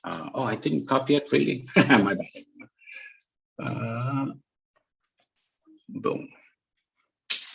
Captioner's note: laughs